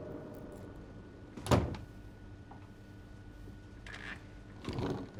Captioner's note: door closes